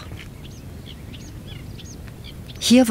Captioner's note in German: Vogelzwitschern